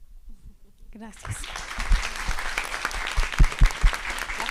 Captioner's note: applause